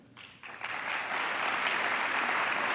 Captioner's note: applause